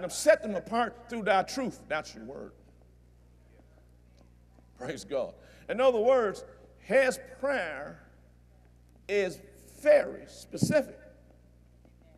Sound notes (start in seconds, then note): none